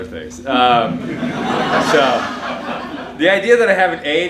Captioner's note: audience laughing